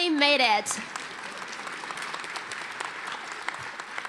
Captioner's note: applause